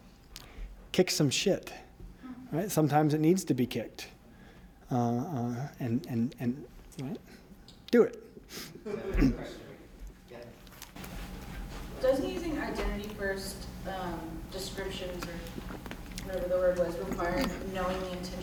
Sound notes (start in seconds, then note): 9.1 laughter